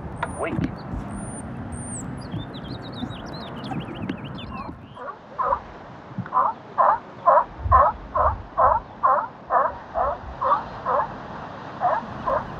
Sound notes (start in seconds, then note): 0.1 birds; 6.2 barking Sea lion